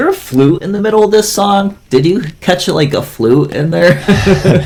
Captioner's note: laughs